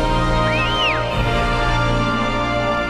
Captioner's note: whistling